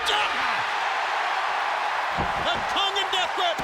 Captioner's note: audience cheering